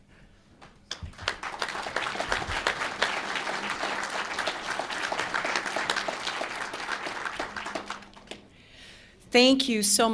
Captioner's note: applause